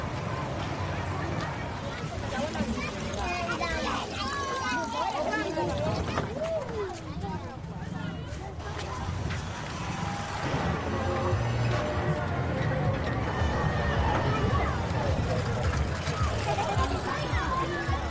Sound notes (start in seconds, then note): 1.8 water flowing; 2.3 children chattering; 10.4 traffic rumbling; 16.4 children chattering